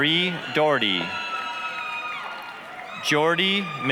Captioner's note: applause, cheering